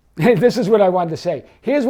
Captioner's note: chuckling